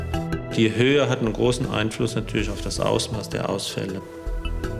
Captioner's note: German